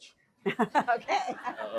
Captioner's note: laughing; laughs